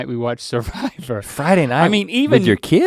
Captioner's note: Link guffaws